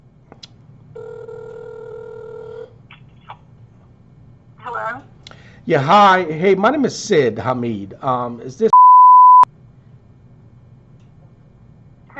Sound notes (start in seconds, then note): 0.9 phone ringing; 8.7 beep